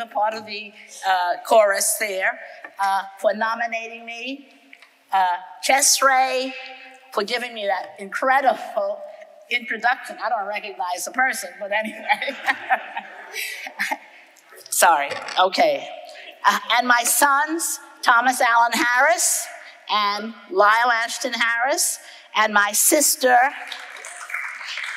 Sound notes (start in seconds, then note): 11.9 chuckles